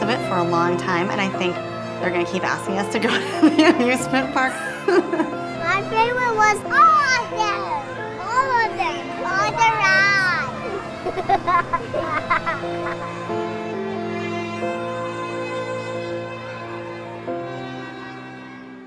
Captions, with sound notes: for a long time and I think they're going to asking to go to the amusement park. [laughing with joy] "My favorite was" "All of them!" "All of them!" "All the rides" [laughing]